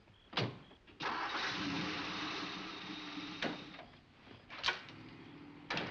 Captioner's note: car engine rumbling